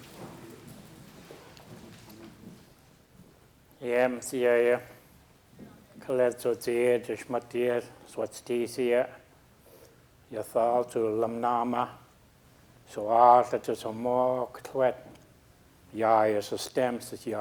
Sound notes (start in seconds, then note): 4.1 speaking a local Indigenous language